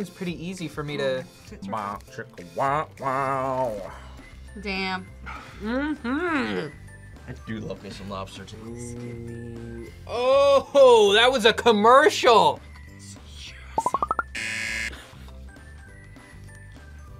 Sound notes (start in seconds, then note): 13.1 whispers; 14.3 buzzer